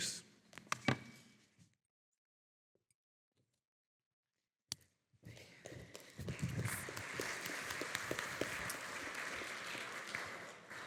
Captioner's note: audience clapping